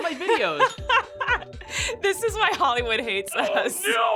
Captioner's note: laughs